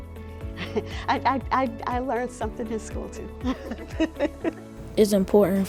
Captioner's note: laughs